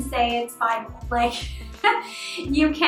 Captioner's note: laughs